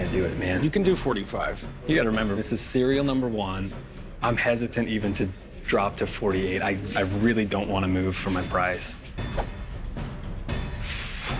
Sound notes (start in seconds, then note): 5.7 stammers